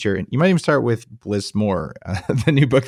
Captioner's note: laughs